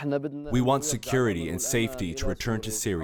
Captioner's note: through translator